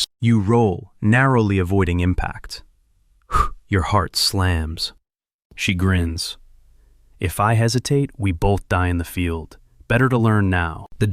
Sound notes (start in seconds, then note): 3.2 exhales sharply